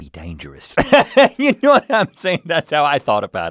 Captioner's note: laughing